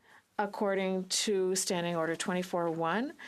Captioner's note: speaking French